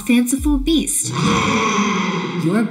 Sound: animal roaring

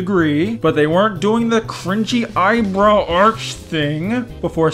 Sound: through gritted teeth

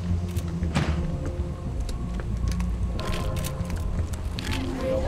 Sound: gentle tense music; car door slams

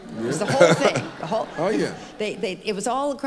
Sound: laughs

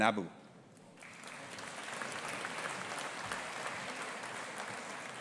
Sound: audience applauding

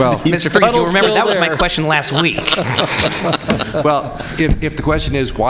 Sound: laughter

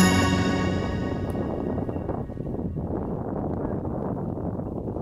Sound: wind blowing

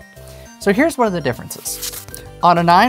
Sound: paper rustling

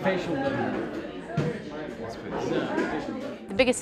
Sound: chatter

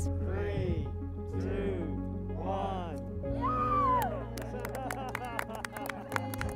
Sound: cheers and applause

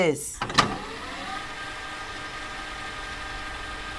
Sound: tape fast-forwarding

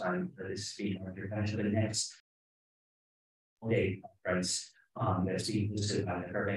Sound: speaking faintly

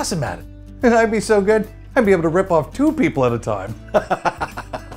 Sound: laughs

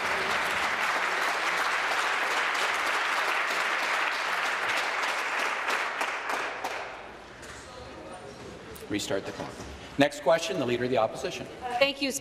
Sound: applause

